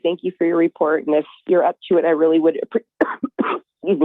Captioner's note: coughs